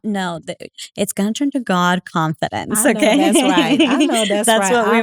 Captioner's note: laugh